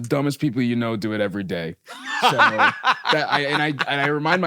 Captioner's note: laughs